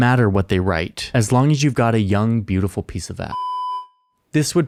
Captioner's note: beep